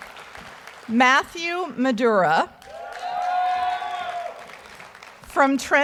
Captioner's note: audience applauds; audience cheering